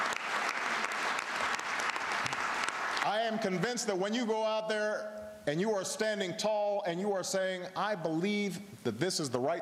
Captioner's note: applause